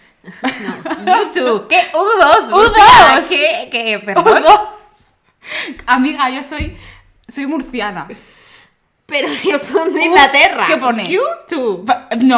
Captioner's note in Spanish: pronunciado en español